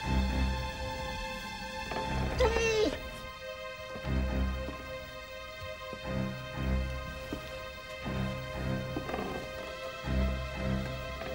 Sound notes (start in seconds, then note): 1.8 Prince whines